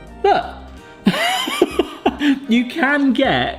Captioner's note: laughing